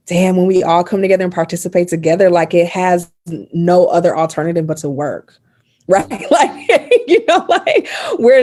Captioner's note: laughing